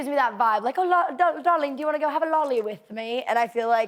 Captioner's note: british accent